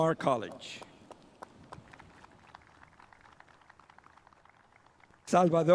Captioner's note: spectators applauding